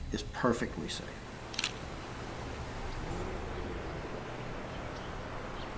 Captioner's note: camera shutter clicks